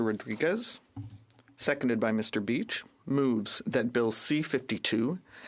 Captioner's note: speaking French